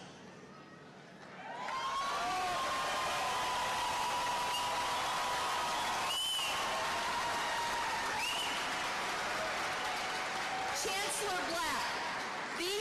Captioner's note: cheers and applause